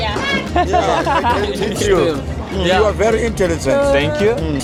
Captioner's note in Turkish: kahkaha